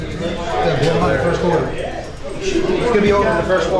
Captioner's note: player Chatter